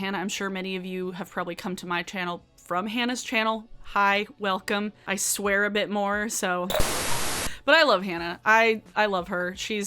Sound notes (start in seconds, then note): 6.7 static screeching